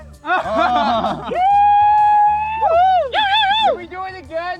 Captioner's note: cheering